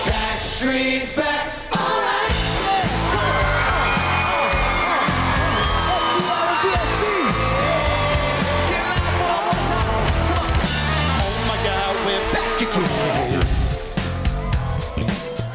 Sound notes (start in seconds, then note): 3.9 crowd cheering